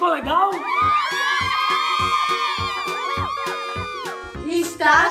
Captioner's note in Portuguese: Gritos de Comemoração